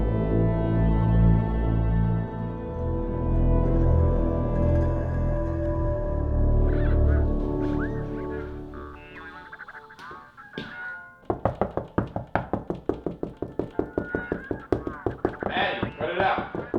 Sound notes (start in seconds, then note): 11.3 knocking